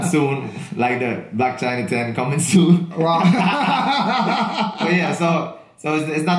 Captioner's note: both laugh loudly